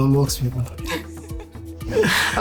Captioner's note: laughing